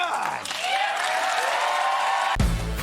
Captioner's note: applause